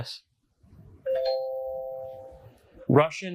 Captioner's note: bell dings